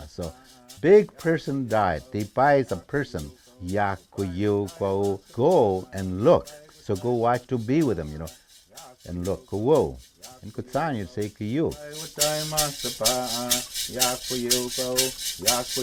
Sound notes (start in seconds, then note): 0.0 speaking in foreign language; 2.3 speaking in foreign language; 9.0 speaking in foreign language; 11.9 singing in foreign language